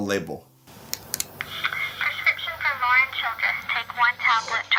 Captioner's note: electronic Voice